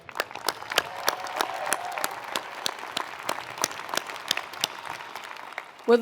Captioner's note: attendees applauding; attendees cheering